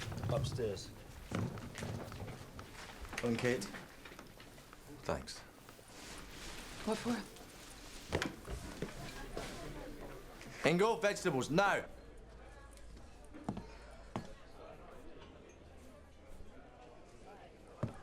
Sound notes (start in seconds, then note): 8.3 patrons chattering